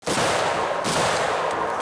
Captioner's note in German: Schüsse